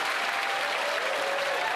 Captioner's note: applause